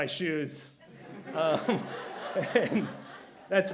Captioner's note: laughter